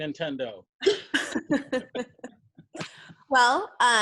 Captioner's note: women laugh